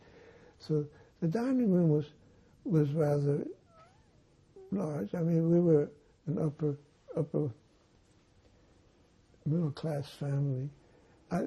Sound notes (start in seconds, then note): none